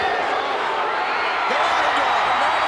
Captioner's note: crowd cheering